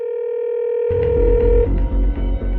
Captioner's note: calling tone ringing